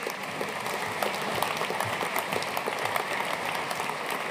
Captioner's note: audience applauding